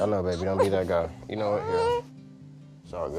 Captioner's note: crying